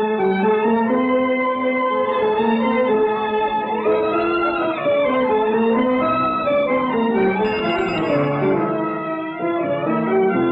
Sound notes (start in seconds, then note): 7.4 cycle bell rings